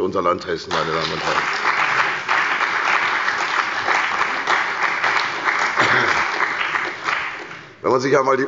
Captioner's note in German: Beifall bei der CDU und dem BÜNDNIS 90/DIE GRÜNEN